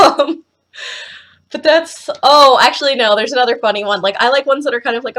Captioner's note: giggles